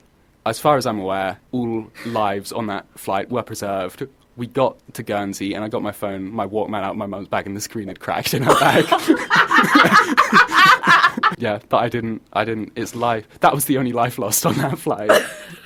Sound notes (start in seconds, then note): 8.4 manic laughter